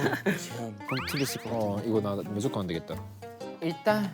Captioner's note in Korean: 흐음